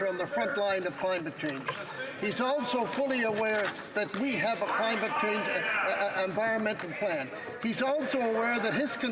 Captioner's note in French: voix de l'interprète